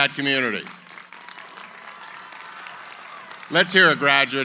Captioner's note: applause